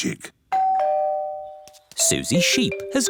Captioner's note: doorbell